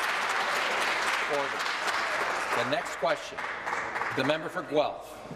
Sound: applause

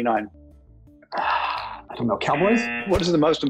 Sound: buzzer

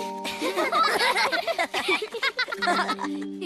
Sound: laugh

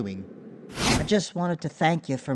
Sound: swoosh

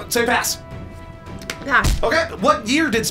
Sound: palm smacks

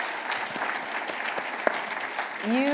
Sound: applause

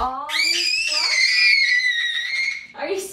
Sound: screams

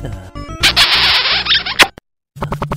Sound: kiss

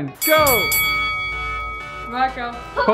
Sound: bell dings

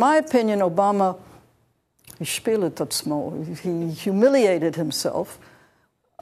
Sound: speaks Hebrew

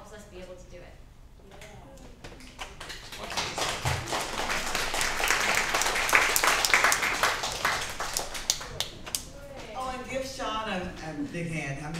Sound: applause

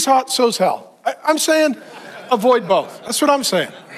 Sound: audience laughing

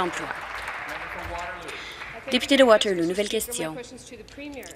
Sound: applause

